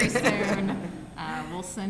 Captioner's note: laughter